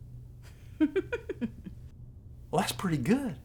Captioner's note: laughing